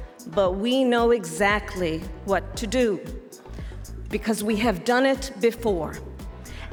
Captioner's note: none